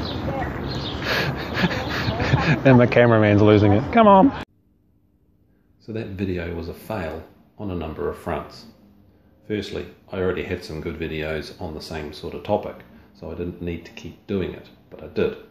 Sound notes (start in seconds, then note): 0.0 laughter; 5.7 can’t stop laughing